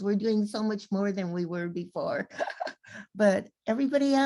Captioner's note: laughs